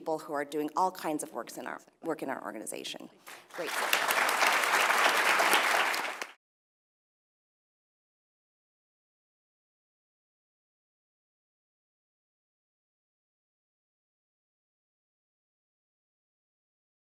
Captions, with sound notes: from the people who are doing all kinds of work in our organization. >> [APPLAUSE]